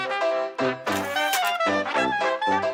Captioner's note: sfx: typewriter carriage return